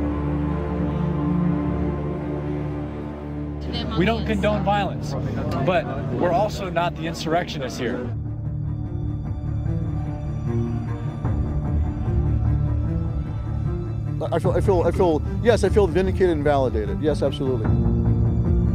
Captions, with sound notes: (crowd shouting in background) >> We don't condone violence, but we're also not the insurrectionists here. (crowd shouting in background) >> I feel, I feel-- yes, I feel vindicated and validated. Yes, absolutely.